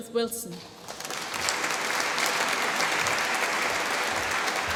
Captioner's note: applause